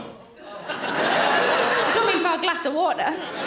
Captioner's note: audience laughs